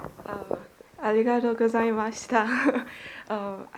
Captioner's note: woman in audience, in Japanese